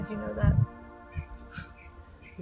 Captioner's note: thunder in distance